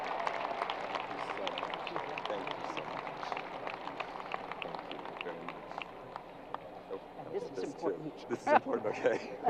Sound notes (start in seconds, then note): 3.4 crowd applause